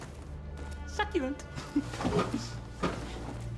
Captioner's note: laugh